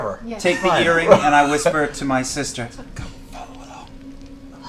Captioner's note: whispers